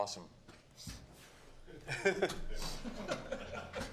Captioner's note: chuckles